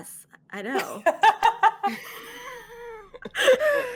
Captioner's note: all laughing